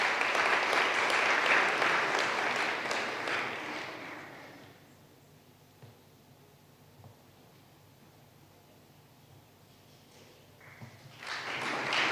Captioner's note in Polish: oklaski